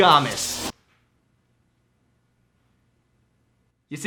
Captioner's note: awkward silence